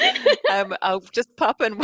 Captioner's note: all laughing